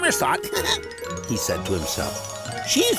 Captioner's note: laughing